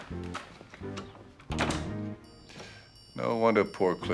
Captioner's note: door closes